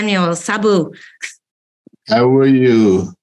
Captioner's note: non-english